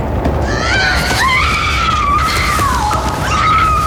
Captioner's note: screaming